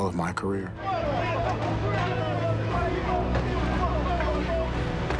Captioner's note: crowd shouting